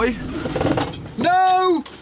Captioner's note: engine stalls